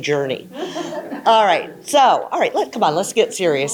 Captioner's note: audience chuckling